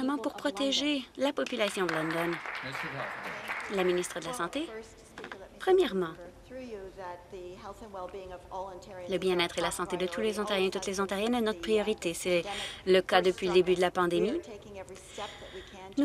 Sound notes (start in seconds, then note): 4.1 some Applause